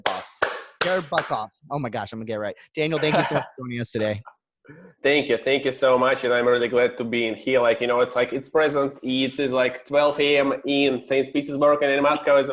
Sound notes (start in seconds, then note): 2.1 clapping